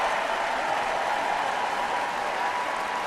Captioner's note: cheering and applause